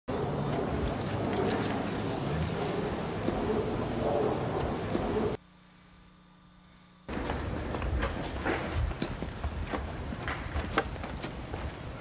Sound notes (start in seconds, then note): 7.1 footsteps tapping